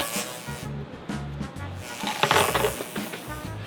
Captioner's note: buzzing